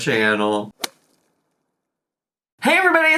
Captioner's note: sound whooshing